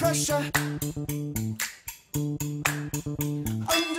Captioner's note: fingers snapping